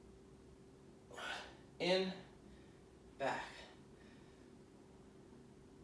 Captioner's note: exhaling